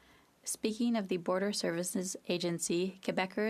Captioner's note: speaking French